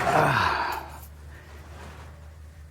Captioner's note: sighs